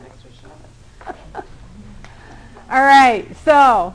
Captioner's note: laughter